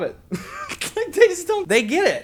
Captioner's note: laughs